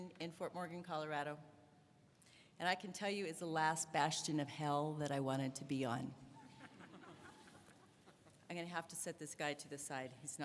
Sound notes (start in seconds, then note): 6.4 audience laughs